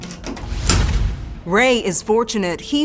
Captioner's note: air whooshes